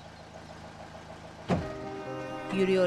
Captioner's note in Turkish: Kapı kapanma sesi